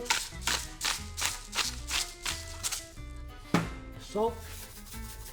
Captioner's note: grinding pepper